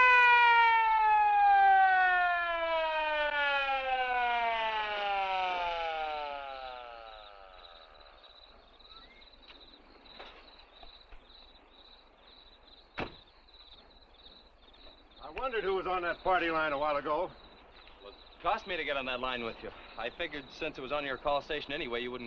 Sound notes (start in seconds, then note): 8.0 crickets chirping